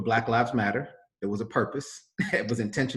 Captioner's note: laughs